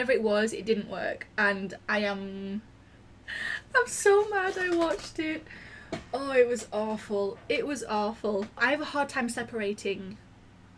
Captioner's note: laughing